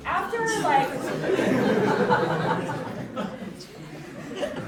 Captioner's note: audience laughing